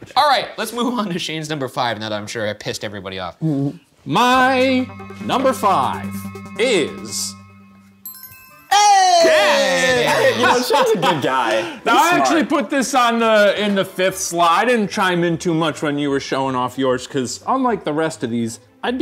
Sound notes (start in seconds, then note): 8.0 bell chimes